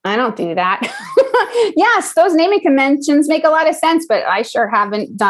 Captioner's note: laugh